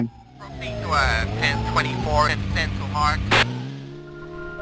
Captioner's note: radio chatter